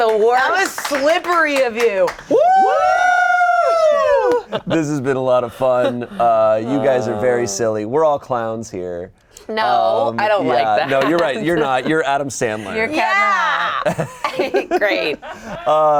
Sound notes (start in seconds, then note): 2.3 everyone whooping